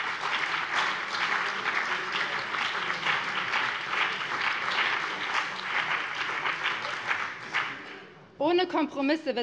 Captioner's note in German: Beifall BÜNDNIS 90/DIE GRÜNEN